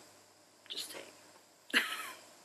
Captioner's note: laughs